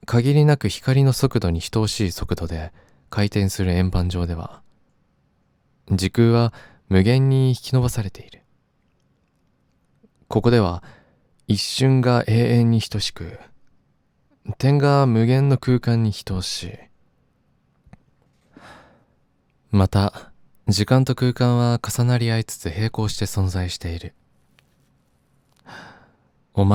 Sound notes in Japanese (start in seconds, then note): 18.5 ため息